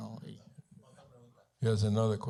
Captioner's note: Spanish language